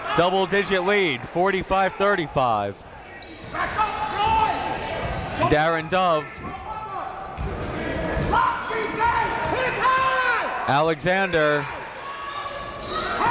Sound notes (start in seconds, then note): 5.9 coaches yelling; 5.9 crowd talking